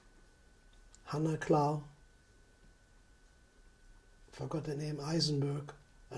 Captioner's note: non-english